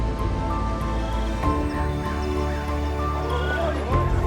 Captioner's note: birds singing; crowd chatter